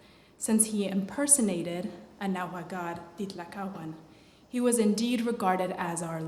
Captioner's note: non-english